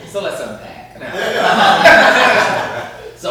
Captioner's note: laughter